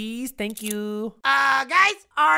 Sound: handcuffs click

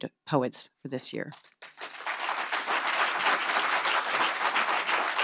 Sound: audience applauding

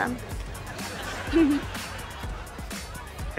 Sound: chuckles

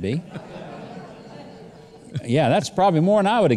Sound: laughing

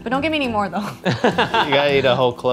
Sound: laughs

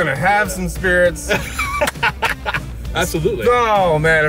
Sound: laughing

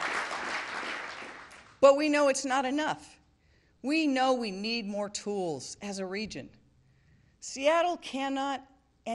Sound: applause

